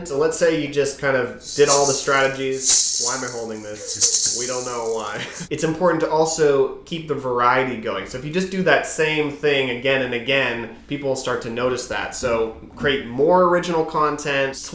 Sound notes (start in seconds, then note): 1.4 rattling